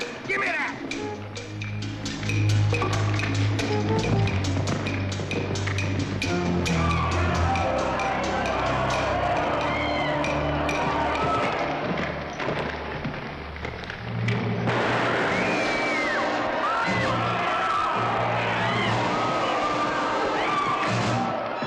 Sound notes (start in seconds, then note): 2.0 ominous suspenseful music; 6.6 commotion & screaming; 6.6 ominous suspenseful music; 14.5 rifle fires; 15.0 Nellie screams; 17.3 commotion & screaming; 17.3 dramatic music